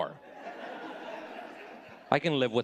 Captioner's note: audience laughing